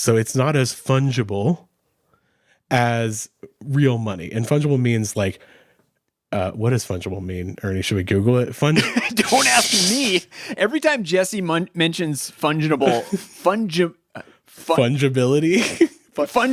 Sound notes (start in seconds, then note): 8.8 laughs; 12.8 laughing; 15.7 chuckles